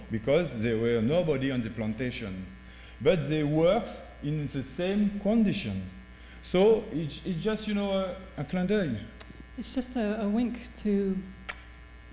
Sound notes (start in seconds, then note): 7.7 speaking french